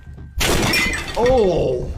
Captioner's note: table clatters